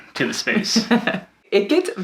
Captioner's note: laughing